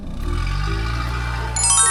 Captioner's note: vroom